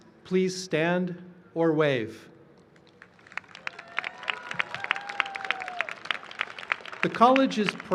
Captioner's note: cheering and applause